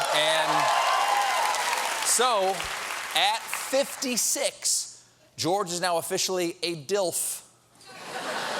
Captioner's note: applause